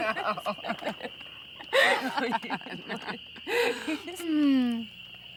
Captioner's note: crickets chirping